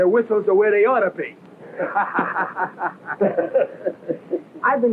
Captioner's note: laughing